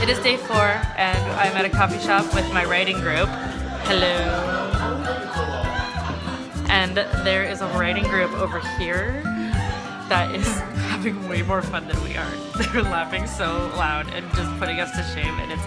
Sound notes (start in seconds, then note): 5.1 background talking and laughter